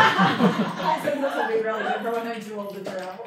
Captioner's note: laughter